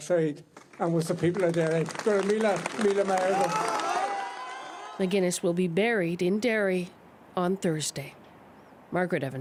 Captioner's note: applause